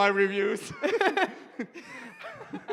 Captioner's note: laughter